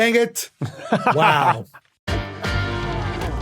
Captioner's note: laughs